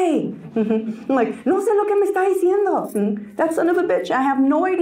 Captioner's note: Spanish; Spanish